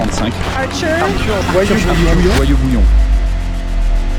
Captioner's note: echo